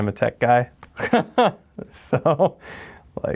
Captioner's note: laughs